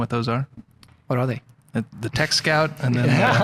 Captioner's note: laughing